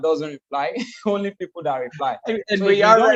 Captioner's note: laughs